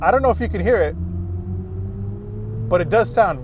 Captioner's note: car humming smoothly